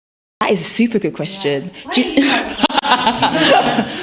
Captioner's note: laughter